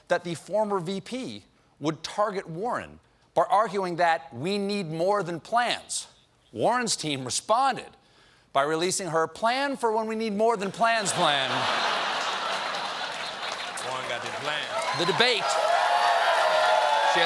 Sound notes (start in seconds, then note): 10.9 laughter; 11.0 applause; 14.0 cheers and applause